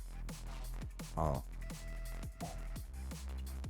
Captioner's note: dumb monkey sounds